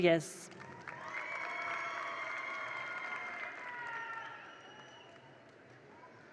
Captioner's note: attendees applaud; attendees cheer